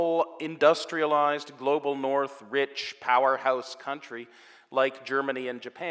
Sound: none

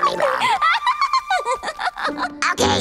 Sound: laughing

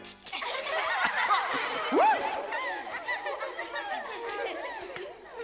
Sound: everyone laughs

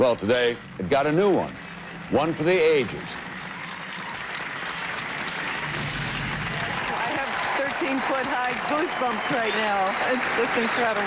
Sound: applause

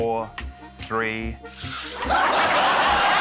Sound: laughter

